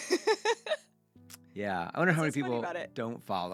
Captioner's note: laughs